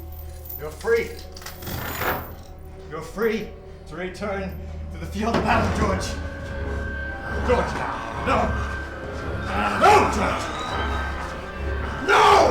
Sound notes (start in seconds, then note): 9.2 grunting; 9.7 grunt becomes a roar